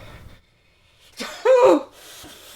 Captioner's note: cries